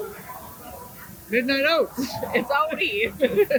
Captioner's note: laughs